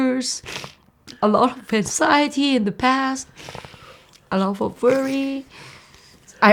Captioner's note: sniffs